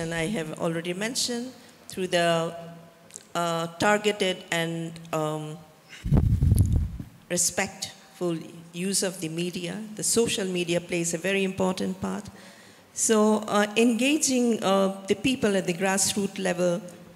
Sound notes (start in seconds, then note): none